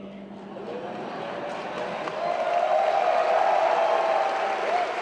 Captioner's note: laughter and applause